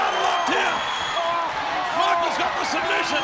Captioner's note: audience cheering